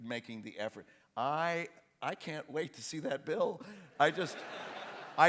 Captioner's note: laughter